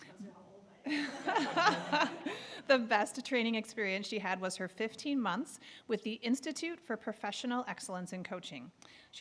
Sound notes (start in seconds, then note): 1.0 audience laughing